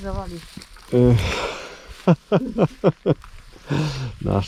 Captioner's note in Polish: śmiech